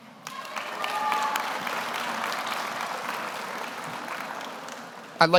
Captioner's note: audience applauds